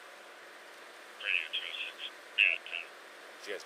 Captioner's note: radio chatter